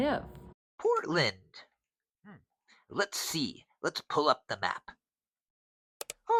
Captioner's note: mouse clicks